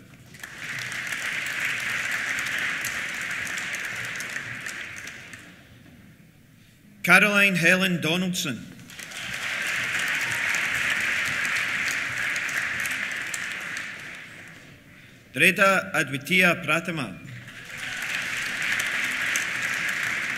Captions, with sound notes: (APPLAUSE) Caroline Helen Donaldson. (CHEERS) (APPLAUSE) Dredha Adwitiya Prathama. (CHEERS) (APPLAUSE)